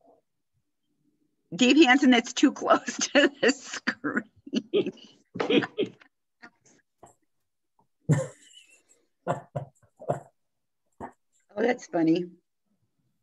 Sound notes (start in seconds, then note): 5.2 laughing